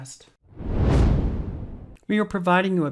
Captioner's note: air whooshing